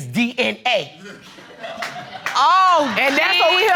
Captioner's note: audience laughing